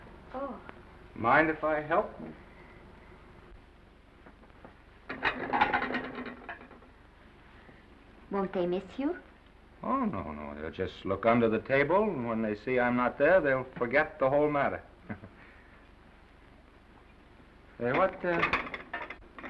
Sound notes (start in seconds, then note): 5.0 plates clatter; 15.0 chuckles